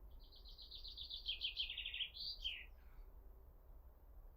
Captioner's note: birds chirping